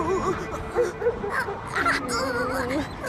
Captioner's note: sobbing